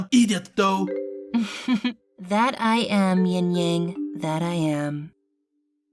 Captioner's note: chuckles